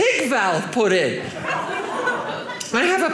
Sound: audience laughing

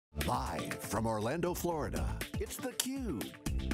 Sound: voiceover

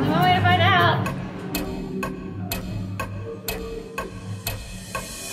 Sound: clock ticking

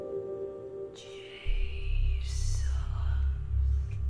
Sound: whispering Voice

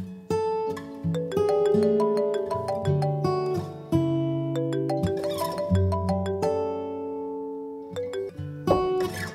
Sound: phone rings

